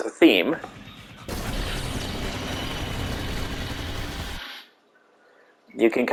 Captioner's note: sound of some outside noises and shooting laser guns